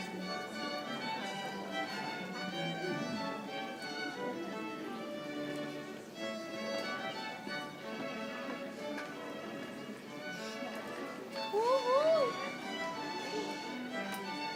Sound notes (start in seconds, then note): 9.2 audience chattering